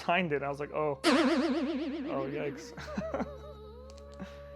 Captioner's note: laughter